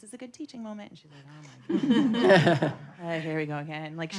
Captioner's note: audience laughing